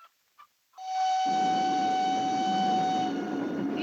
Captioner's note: the whistle of the train